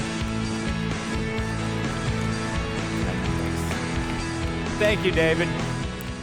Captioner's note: applause